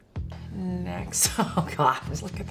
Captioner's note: laughs